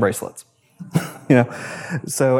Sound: audience laughs

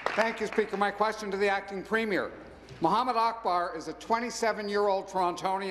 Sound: applause

